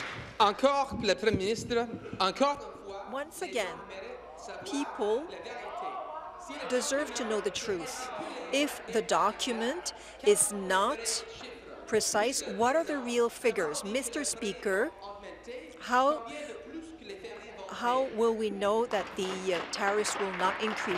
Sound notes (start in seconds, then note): 5.6 speaking in French